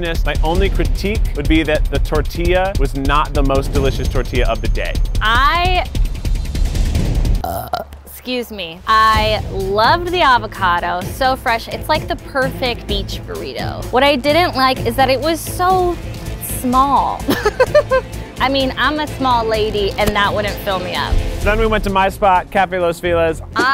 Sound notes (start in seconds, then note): 6.1 dramatic music; 7.4 burps; 17.2 laughing